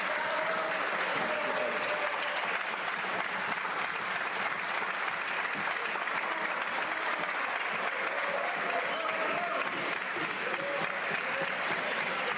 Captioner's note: cheering and Applause